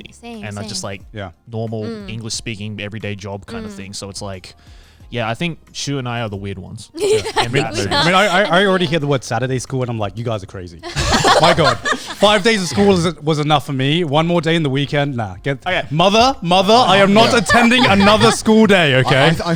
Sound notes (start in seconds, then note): 7.0 laughing